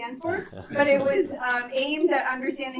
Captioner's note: and students laughing